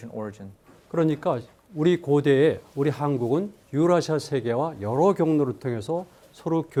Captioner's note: speaking in Korean